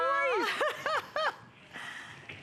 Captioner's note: laughter